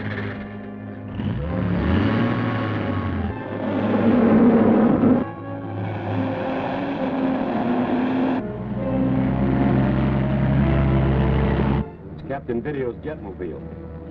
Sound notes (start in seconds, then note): 0.0 engine starts; 1.9 engine rumbles; 3.8 vehicle whooshes